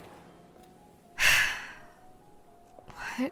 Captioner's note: sighs